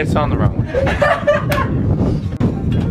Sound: laughter

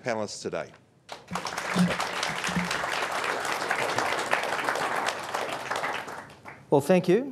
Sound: applause

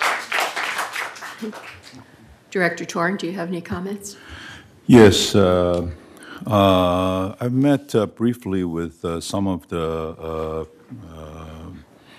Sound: applause

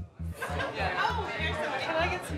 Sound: patrons laughing

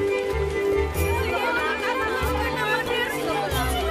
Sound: people clamoring

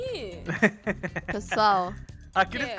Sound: laughing on the background

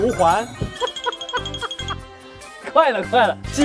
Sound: hahaha

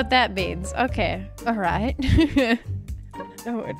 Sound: laughs

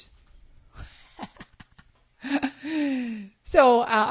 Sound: laughing

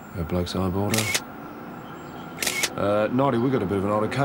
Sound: camera clicks

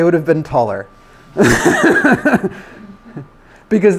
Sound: laughs

